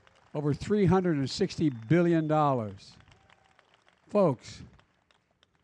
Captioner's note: applause